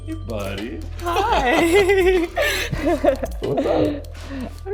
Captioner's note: magical music; laughing